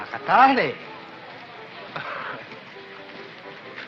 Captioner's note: laughs